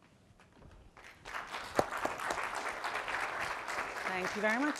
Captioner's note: applause